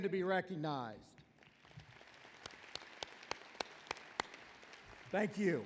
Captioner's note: applause